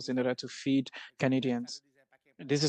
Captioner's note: speaking French